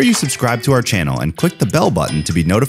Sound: bell ringing

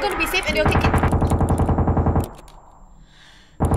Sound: consecutive gunshots; gunshots

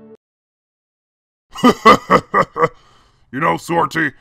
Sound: laughing

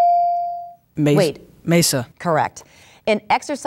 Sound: dinging

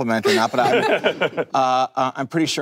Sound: panel laughing

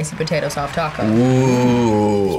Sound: clapping

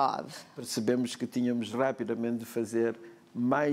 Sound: speaking portuguese

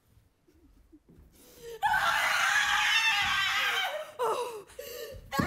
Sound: screams

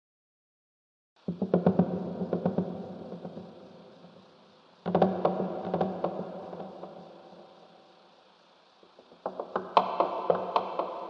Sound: sound of creaking

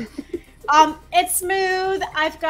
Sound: laughs

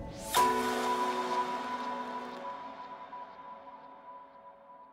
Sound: bells ringing

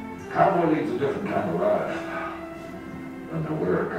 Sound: voiceover

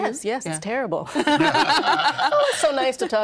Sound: all laughing

